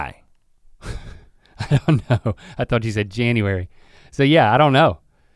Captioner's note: chuckles